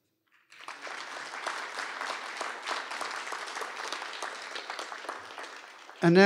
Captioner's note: applause